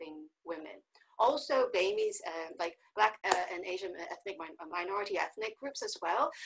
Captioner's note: stammering